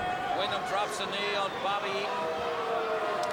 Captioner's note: crowd chatter